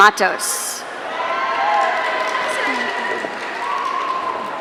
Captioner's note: audience cheering